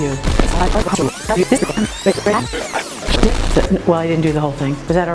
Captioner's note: tape rewinding